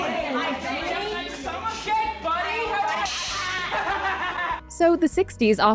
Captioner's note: electric shock sound; taunting and laughing